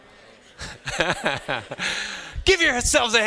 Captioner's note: chuckles